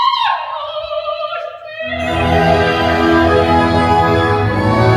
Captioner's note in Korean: 비명